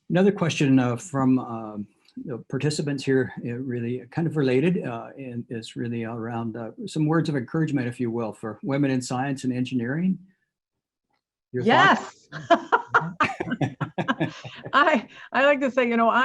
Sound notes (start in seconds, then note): 11.6 laughs